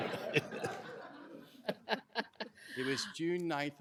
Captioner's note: laughter